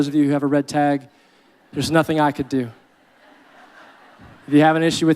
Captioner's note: audience laughing